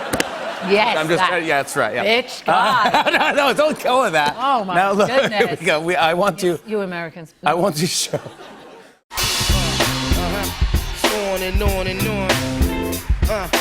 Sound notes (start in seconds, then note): 8.0 laughter